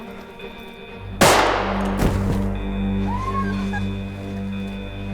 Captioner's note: gunshot, student screams